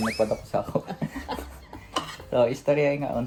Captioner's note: laughter